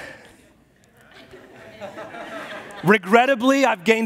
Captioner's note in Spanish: congregación se ríe